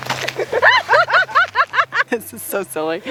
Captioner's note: laughing